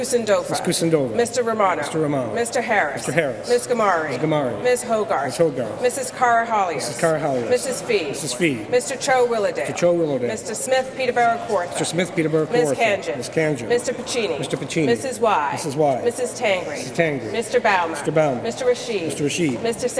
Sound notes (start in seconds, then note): none